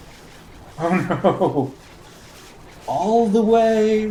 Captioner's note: chuckling